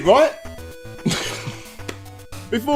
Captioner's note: cracks a laugh